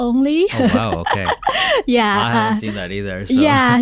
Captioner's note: laughing